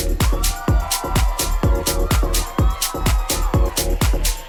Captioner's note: crowd cheering